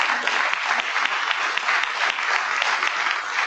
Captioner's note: applause